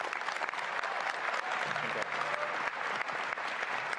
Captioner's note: applause